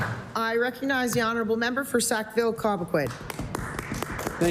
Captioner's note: applause